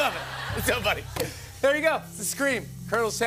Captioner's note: laughter